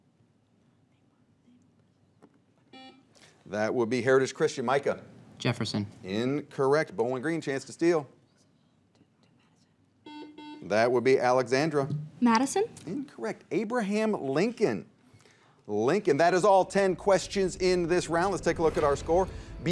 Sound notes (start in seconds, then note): 2.7 buzzer beeps; 8.3 teammates whisper; 10.0 buzzer beeps